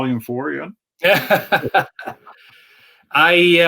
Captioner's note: both laughing